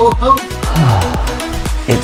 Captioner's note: sigh